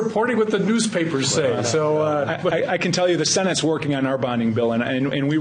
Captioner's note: laughter